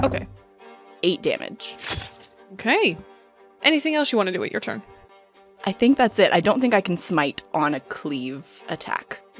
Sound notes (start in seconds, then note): 1.8 dice thunk; 1.8 piercing impact